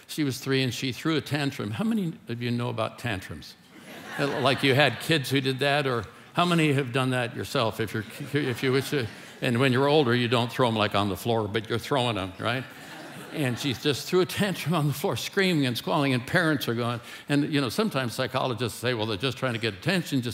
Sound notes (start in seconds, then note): 3.6 congregation laughing; 12.2 congregation laughing